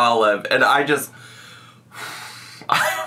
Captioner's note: exhales